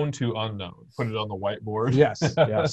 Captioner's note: laughs